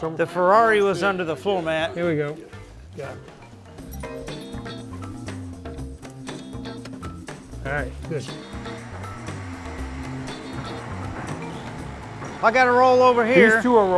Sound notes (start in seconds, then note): 3.8 keys jingle; 8.9 winch rumbles